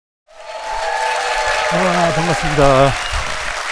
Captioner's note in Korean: 박수